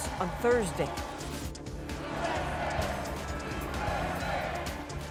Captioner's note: cheers and Applause